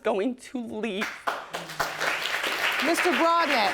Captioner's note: audience applauding